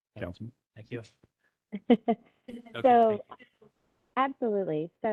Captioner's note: laughter